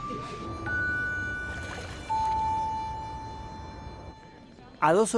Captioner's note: water splash